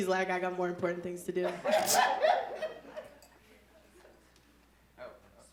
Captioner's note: audience laughing